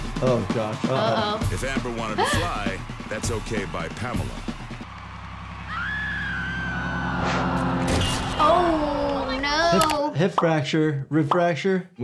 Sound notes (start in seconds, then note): 5.7 Amber screaming